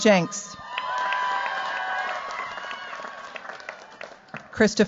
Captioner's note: cheers, applause